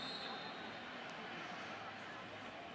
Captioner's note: whistle